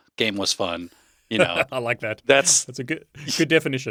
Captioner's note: laughing